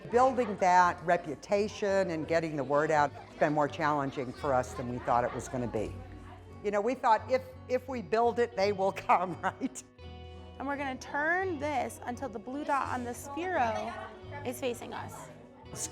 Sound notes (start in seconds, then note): 10.1 laughs